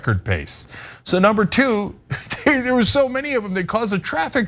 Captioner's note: laugh